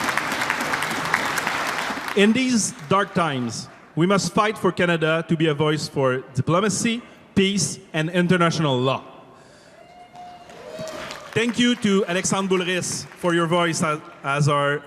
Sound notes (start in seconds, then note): 2.7 cheer and applause